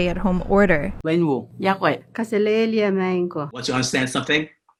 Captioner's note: speaking foreign languages